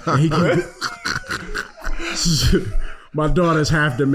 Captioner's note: laughing